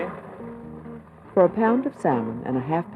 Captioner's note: voiceover